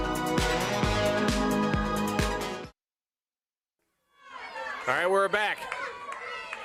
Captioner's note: crowd chatter